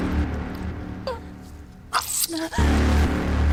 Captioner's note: Michelle gasps